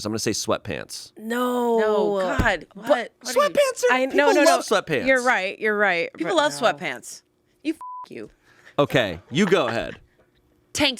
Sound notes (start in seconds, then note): 7.8 beep